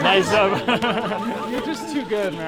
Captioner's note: people laugh